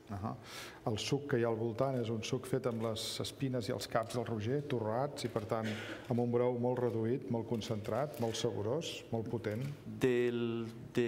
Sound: speaking catalan

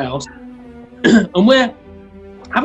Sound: clears throat

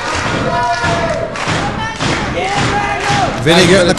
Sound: fans clapping

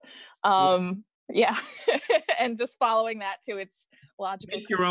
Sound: laughs

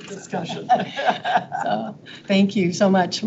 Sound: people chuckle

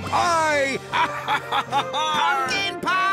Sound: laughs

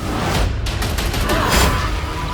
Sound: yells

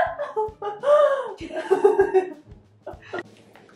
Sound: both laughing

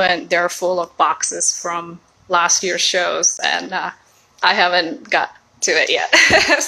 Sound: laughs

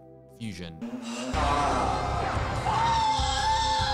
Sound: screaming

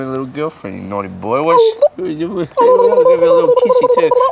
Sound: tongue flaps

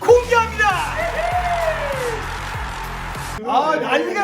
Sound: explosive crowd reaction towards new contents announcement!

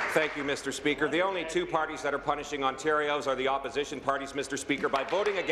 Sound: applause

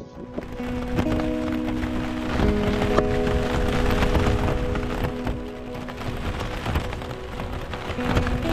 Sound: rain

